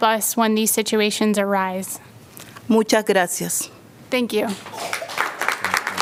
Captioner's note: applause